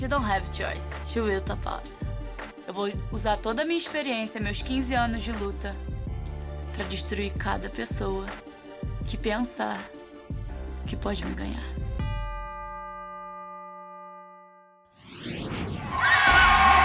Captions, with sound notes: >> I PUT MY SUBMISSION ON ONE LADY, SHE DON'T HAVE A CHOICE. SHE WILL TAP OUT. [SPEAKING FOREIGN LANGUAGE]